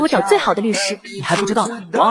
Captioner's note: laughing